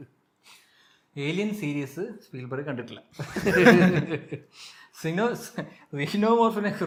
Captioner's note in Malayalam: പൊട്ടിച്ചിരി